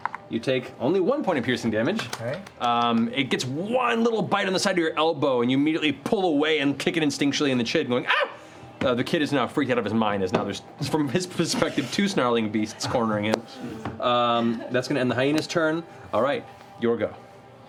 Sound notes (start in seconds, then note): 8.0 yelps